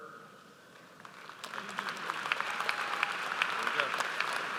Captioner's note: audience applauds